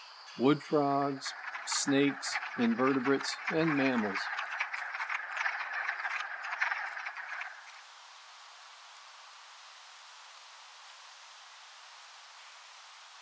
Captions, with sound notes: wood frogs, snakes, invertebrates, and mammals. [ wood frogs calling]